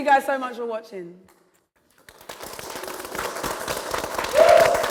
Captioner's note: applause